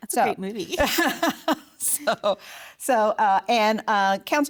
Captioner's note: laughing